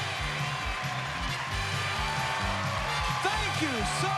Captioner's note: cheers and applause